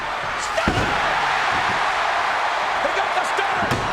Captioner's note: crowd cheering